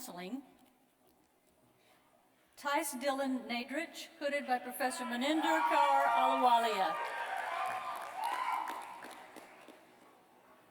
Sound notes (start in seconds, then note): 4.7 cheers